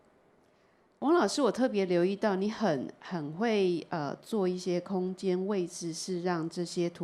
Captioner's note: Mandarin